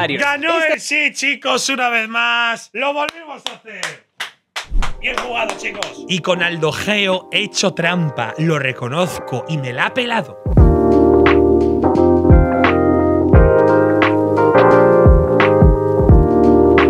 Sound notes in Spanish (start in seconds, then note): 5.0 aplaude